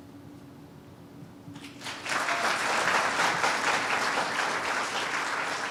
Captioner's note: applause